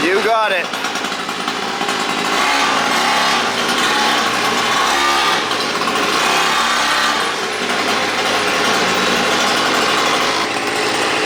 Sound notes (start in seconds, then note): 1.4 motor revving